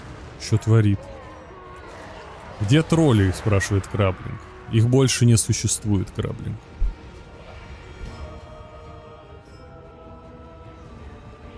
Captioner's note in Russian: стон